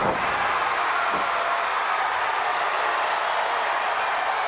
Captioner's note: crowd cheering